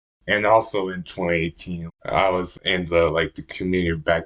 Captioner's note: none